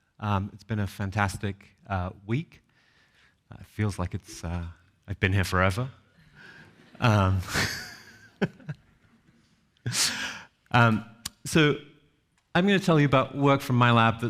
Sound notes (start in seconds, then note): 6.3 audience chuckles; 7.4 chuckles